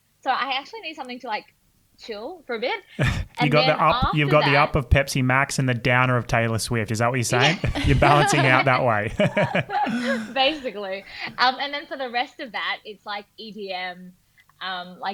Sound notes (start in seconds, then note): 9.7 everyone laughing